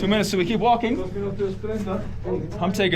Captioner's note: people chattering